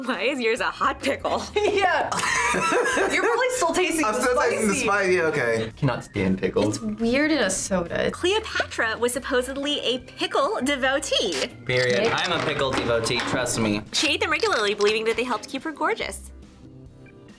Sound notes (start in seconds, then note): 1.3 laughs